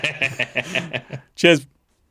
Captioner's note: laughs